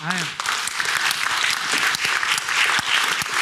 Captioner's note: applause